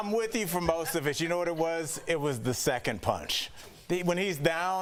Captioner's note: laughter